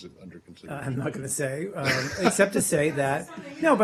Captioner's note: laughter